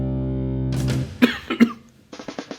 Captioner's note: coughs